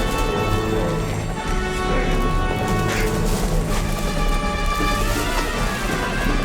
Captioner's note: tense dramatic music; helicopter whirs